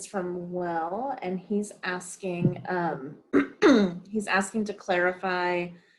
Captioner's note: clears throat